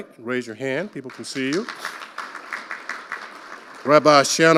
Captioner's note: audience applauding